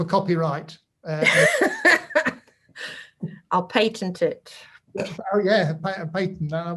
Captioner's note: laughs; laughs